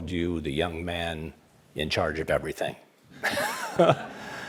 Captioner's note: audience laughs